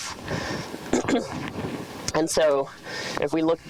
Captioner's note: clears throat